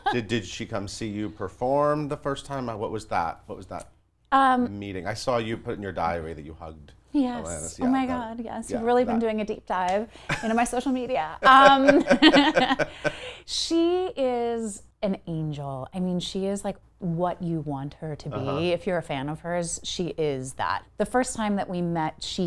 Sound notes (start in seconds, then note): 0.0 laughing; 11.4 laughing